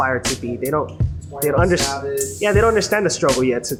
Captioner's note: all chattering